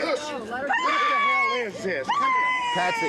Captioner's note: screams